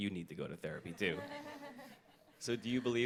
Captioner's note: audience laughs